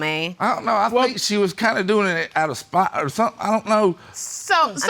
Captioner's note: stammering